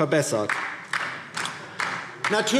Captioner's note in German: Beifall DIE LINKE